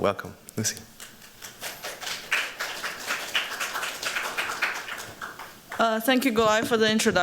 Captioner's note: applause